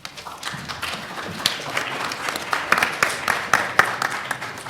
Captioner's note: audience applauding